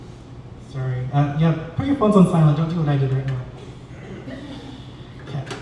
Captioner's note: laughter